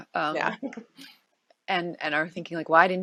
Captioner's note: chuckles